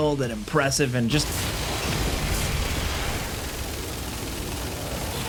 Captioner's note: gunfire banging